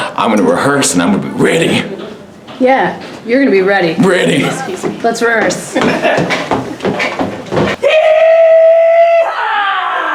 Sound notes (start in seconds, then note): 5.7 laughter; 6.8 banging